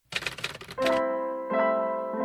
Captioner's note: typewriter sound